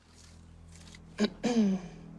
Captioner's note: clearing throat